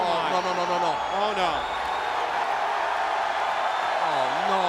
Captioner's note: applause